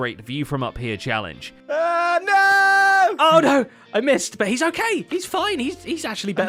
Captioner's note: shouting